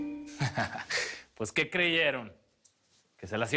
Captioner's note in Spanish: Risas